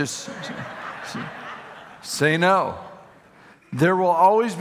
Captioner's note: audience laughing